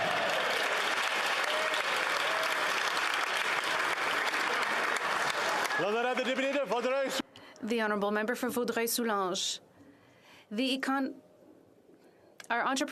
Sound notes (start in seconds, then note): 4.3 applause